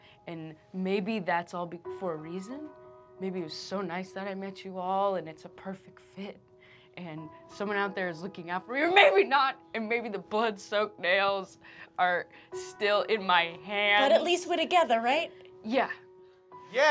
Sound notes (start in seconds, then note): 9.0 shouting; 10.0 normal voice